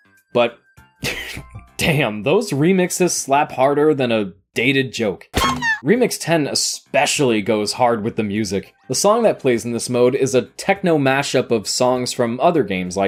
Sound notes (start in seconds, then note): 0.7 chuckles; 5.3 Ed, Edd n Eddy sound effects